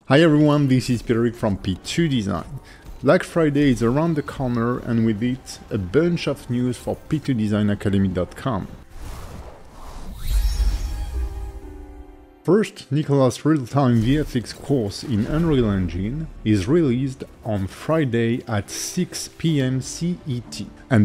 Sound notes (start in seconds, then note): 8.7 screen whooshing; 9.0 ethereal music